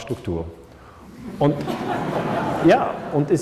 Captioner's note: laughter